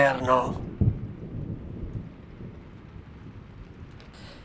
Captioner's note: raining sound